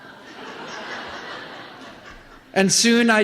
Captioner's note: laughter